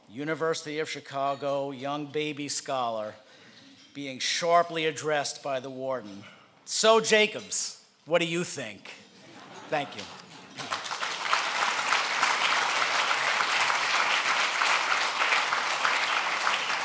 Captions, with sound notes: University of Chicago, young, baby scholar being sharply addressed by the warden, "So, Jacobs, what do you think?" (laughing) Thank you. (applause)